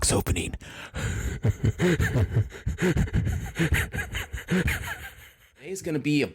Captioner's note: histeria